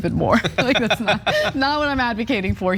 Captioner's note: laugh